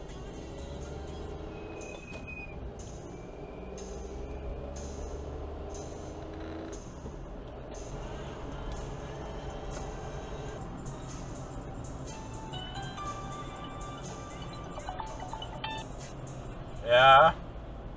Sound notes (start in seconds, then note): 1.6 weird squeaking noise